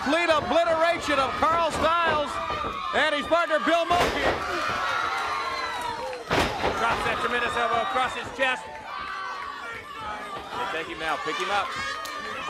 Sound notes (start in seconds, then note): 7.4 crowd cheering; 11.1 crowd chatter